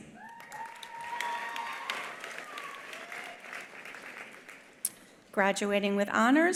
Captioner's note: attendees applauding; attendees cheering